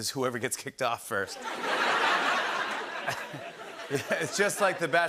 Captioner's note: laughter